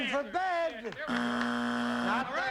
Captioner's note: buzzer